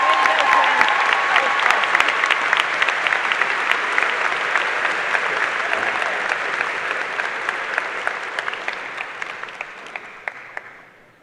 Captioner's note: cheers and applause